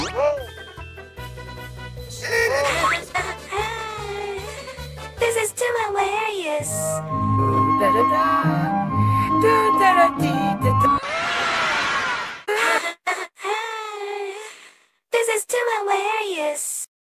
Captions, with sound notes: *Laughs* That's hilarious! [Ballet music] *Screams* *Laughs* That's hilarious!